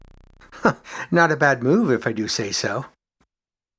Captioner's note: chuckles